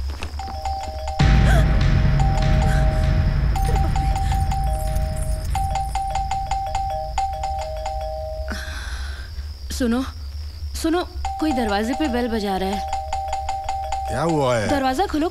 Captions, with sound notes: (Door bell rings) - (Gasps) Oh no! (Door bell rings) Listen. Listen. Someone is ringing the doorbell. - (Door bell rings) What is it? - Open the door.